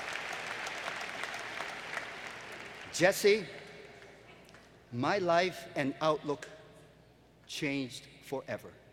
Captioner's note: applause